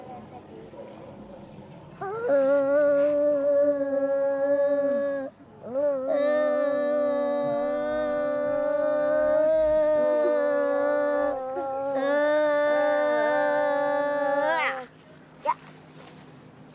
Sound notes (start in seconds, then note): 6.5 humming continues